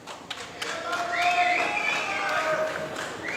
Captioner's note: applause